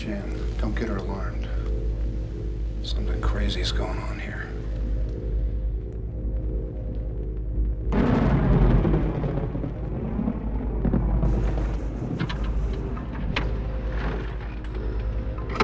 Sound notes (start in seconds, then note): 7.9 thunder booming